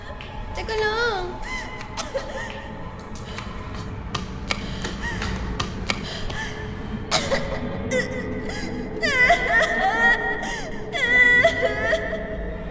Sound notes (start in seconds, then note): 2.9 rushing footsteps; 7.0 cry gets louder